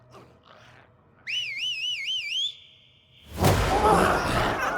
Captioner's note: Darlus whistles; dramatic music; glowzies growling